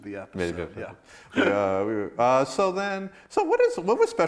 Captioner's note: laughs